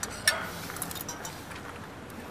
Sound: sighs

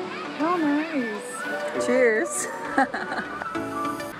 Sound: laughs

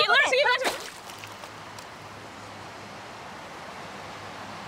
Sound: phone splashes

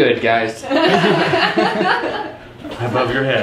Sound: laughter

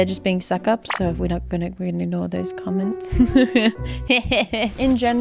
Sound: laughs

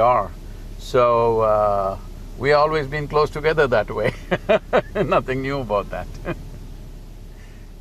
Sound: laughs

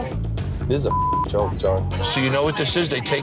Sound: beeping

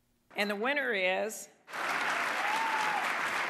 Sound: applause

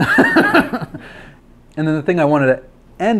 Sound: laughs

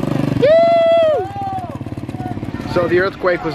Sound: motorbike throttles; cheering

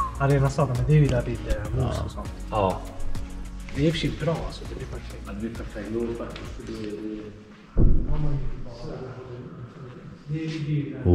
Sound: speaking Swedish

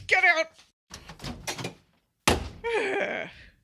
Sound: door opens and slams; Leia sighs

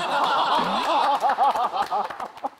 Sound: clapping

